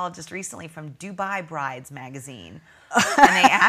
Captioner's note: laughing